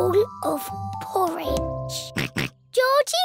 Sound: oinks

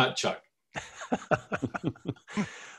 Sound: laughter

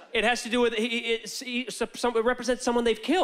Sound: stammering

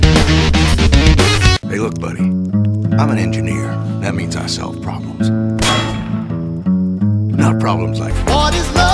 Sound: clang!

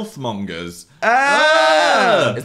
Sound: groaning

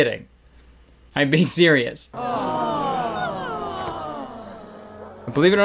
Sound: crowd gasping

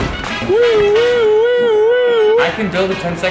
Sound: mimicking a siren

